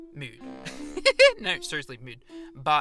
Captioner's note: giggles